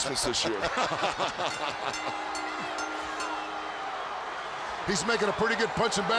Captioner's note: bell ringing